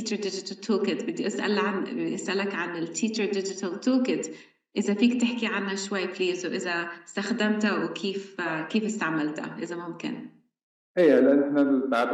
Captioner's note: speaking arabic